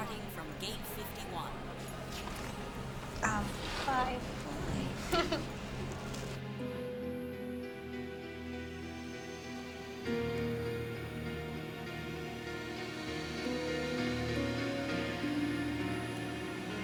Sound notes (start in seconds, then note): 2.3 laughs